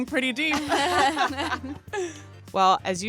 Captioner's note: laughter